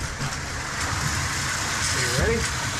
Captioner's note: clanking